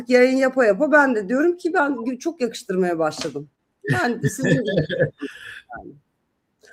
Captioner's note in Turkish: kahkaha